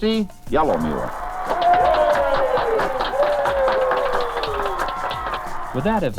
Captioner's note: crowd cheering and applauding